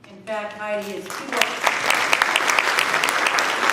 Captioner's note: applause